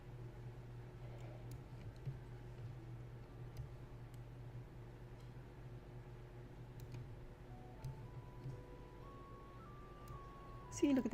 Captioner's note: clickings and typings